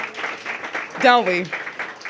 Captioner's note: applause